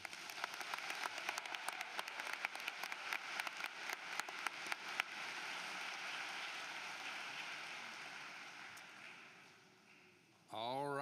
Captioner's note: applause